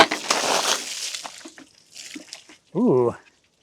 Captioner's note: water splashing